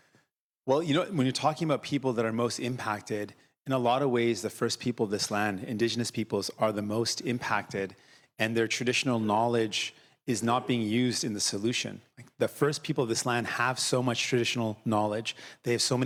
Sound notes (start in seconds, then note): none